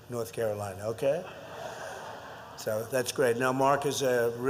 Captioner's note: laughter